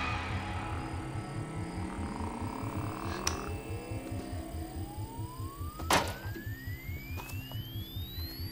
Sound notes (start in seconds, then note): 1.7 tone oscillating